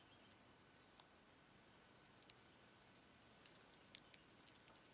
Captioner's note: birds chirping